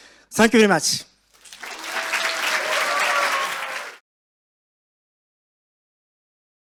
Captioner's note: audience applauds and cheers